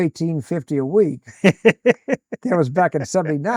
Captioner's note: laughing